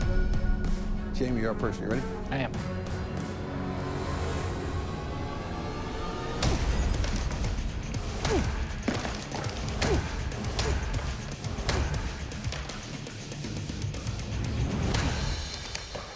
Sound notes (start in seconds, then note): 5.8 ice shattering; 8.0 grunting